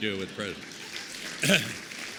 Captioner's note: applause